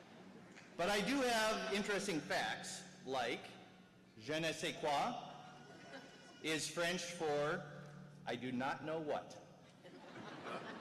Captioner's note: chuckles